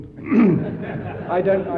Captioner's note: audience laughs